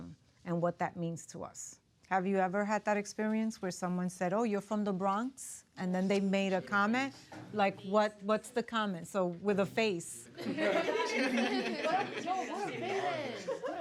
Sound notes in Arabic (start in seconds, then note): 10.4 الطلاب يضحكون